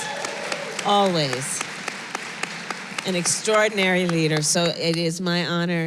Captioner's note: applause